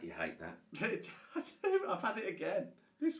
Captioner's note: chuckles